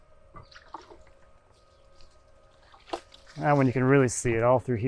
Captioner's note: water sloshing